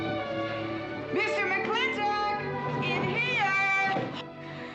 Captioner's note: yelling